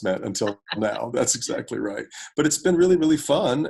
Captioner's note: both laugh